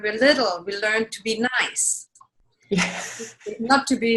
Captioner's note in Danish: laughing